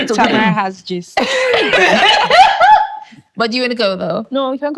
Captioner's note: laughing